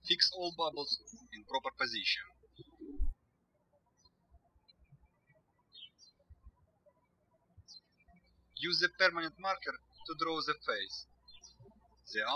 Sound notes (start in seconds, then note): 5.2 birds chirping